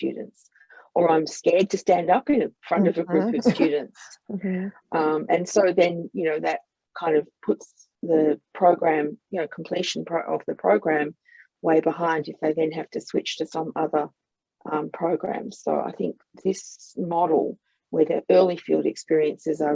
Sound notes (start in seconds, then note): 3.0 laughs and mm-hmms